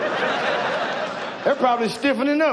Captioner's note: audience laughs